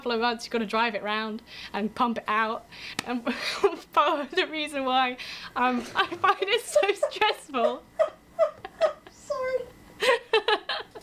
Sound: laughter

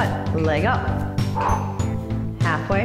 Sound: exhales

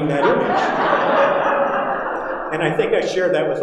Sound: audience laughing

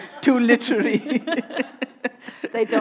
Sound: everyone chuckling

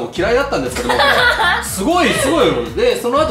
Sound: laughs

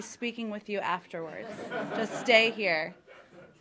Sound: laughter

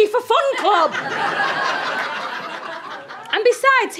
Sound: audience laughter

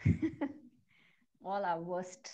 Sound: chuckles

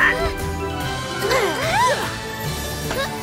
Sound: bird squawks; both grunt

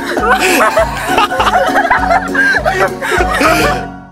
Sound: laughing

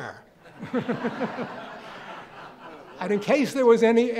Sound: audience laughing

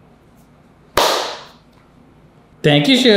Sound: hands smacking

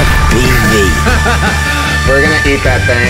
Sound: laughter

